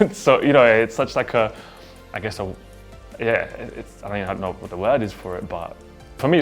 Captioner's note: none